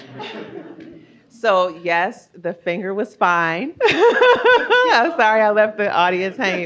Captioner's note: audience laughs; laughs